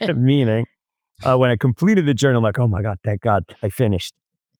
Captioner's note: laughs